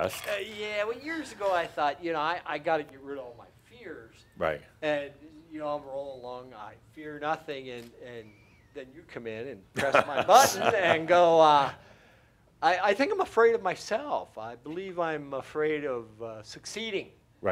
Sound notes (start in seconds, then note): 9.8 chuckles